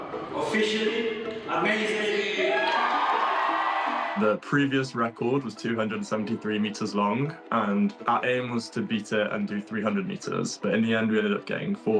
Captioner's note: applause